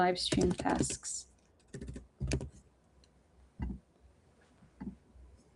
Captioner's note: typing